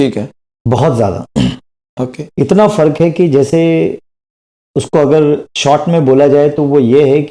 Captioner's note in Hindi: गला साफ़ करने की आवाज़